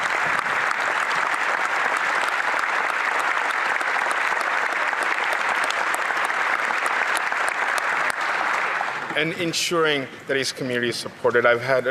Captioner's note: applause